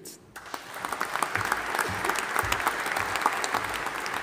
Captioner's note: audience applauding